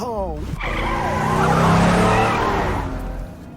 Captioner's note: tires screech